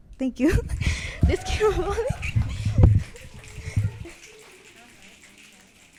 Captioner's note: audience clapping and cheering